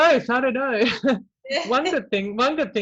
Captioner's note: chuckles